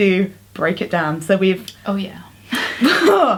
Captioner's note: groan in exasperation